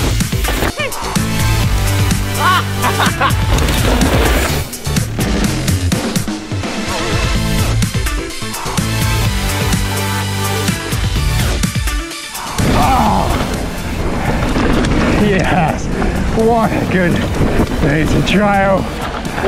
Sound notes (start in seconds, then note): 2.3 laughs; 4.2 trap music continues; 12.9 gasps